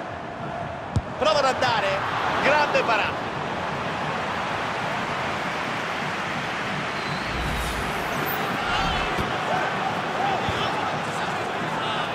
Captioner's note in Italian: Applauso